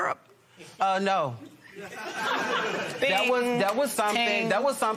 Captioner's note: laughter